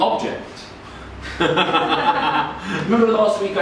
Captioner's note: audience laughing